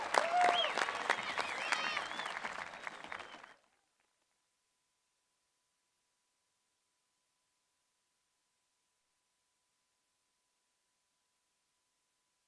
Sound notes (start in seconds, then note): 0.0 cheerpland apause